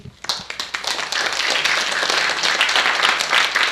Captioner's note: applauding